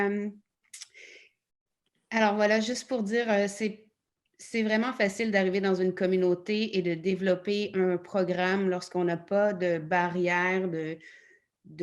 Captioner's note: in French